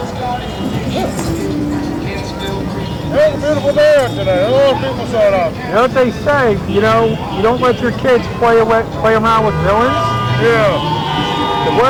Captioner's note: booing